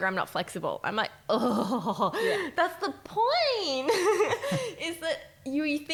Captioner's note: chuckles